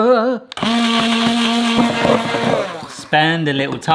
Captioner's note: blender whirring